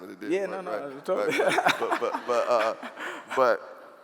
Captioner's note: laughing